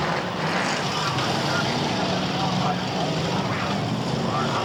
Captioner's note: engines roar